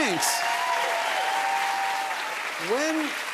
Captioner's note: cheers and applause